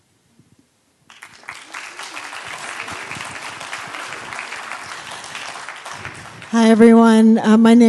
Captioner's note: applause